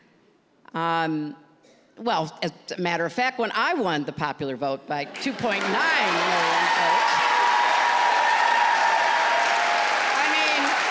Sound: applause

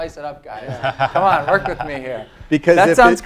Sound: laugh

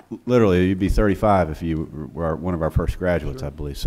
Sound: laughing

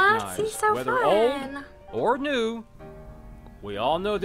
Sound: voice-over; voice-over

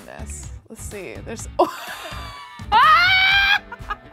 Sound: laughs

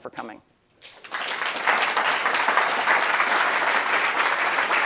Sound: round of applause

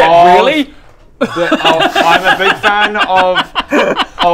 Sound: maniacal laughter

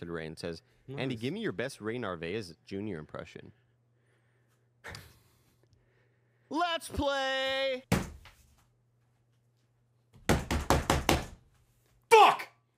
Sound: bangs desk

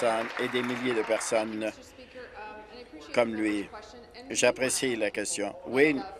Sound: applause

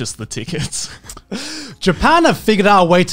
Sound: laughing

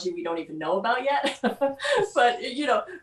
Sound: chuckles

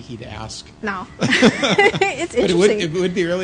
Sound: laughter

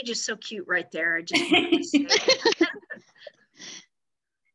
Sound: laughter

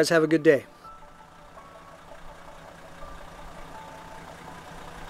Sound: car engine roaring

